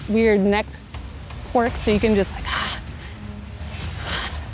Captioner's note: growl